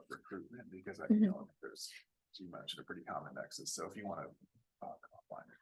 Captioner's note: away from mic